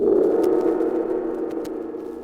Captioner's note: friendly static